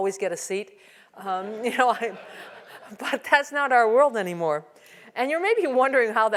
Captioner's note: laugh